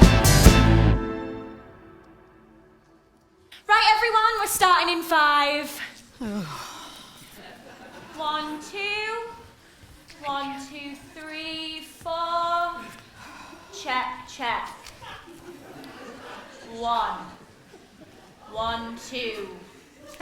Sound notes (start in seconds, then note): 6.2 the zumba group groans